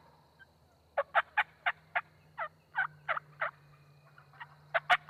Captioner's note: turkey calls